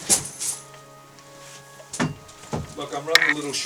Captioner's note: clinking